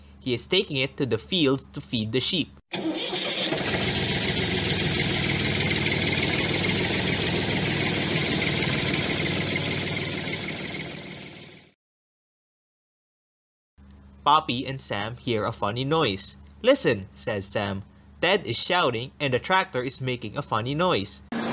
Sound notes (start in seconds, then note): 2.7 tractor is running